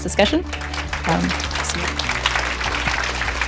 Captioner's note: applause